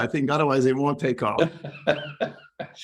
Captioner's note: laugh